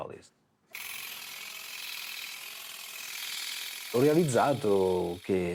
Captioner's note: machine whirs